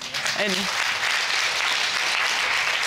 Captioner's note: audience applauding